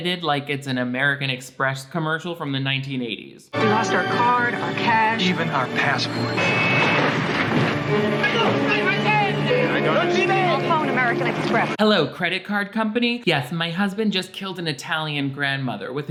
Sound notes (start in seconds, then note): 6.5 cars honking; 7.9 men yelling